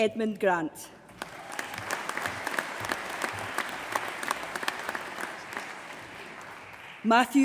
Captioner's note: applause